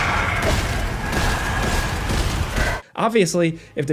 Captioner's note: gun firing